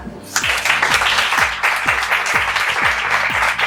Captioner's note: applause